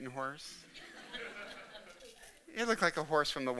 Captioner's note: audience laughing